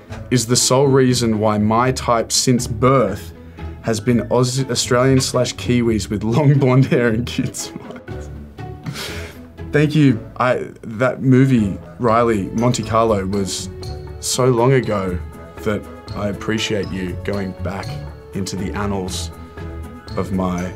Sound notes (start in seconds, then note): 8.9 chuckles